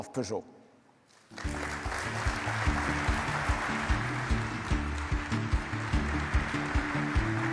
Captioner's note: audience applauding; bright music